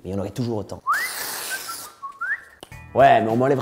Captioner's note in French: sifflement